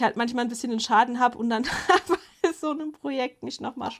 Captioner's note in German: Gelächter